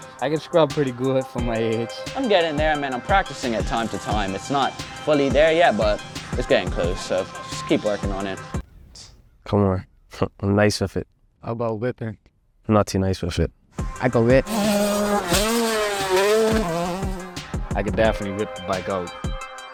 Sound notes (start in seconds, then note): 8.7 rap instrumental stops; 8.7 scoffs; 13.9 rap instrumental